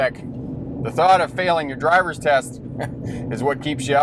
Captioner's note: chuckles